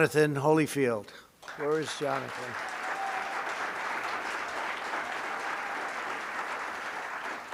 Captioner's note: applause